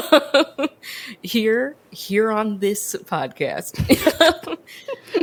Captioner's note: laughs; both laugh